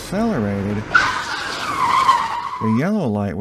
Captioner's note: tires squealing